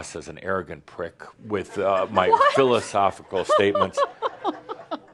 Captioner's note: giggling